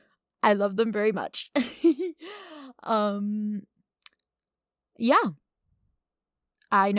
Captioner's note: giggles